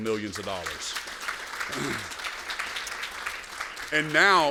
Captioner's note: applause